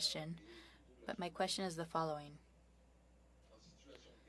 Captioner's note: speaking French